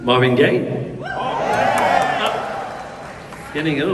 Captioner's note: crowd